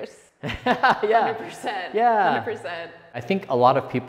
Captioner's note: laughing